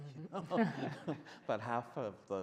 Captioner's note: men laughing